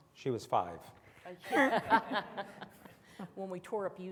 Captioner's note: all laughing softly